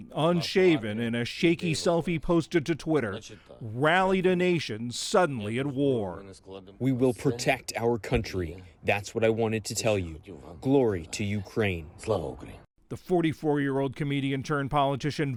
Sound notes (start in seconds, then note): 6.4 through translator